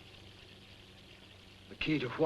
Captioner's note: water running